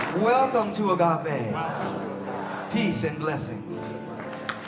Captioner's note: crowd repeat